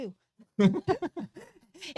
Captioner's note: both laughing